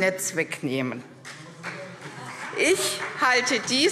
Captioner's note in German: Beifall CDU